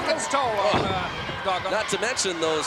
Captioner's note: foot slamming